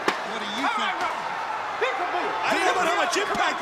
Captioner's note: crowd chatter